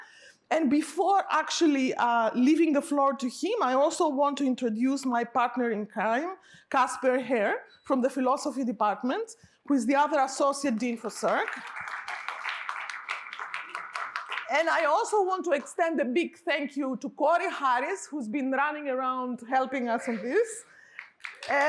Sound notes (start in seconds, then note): 10.7 applause